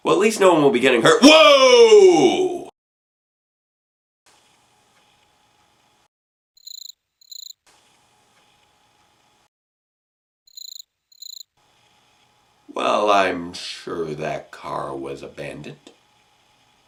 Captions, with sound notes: Well at least no one will be getting hurt th- WHOA!!!! [Cricket.] [Audio Muted] [Cricket.] Well I'm sure that car was abandoned...